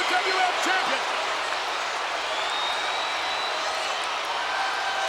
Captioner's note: crowd cheering